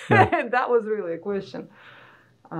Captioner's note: laughing